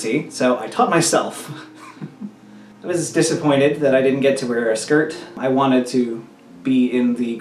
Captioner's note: laughs